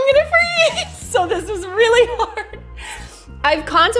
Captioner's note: hyperventilates; laughs